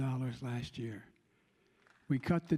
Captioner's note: applause